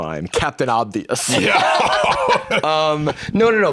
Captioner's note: laughs